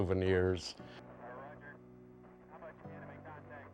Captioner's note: man On Radio